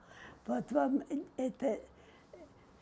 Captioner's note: mumbling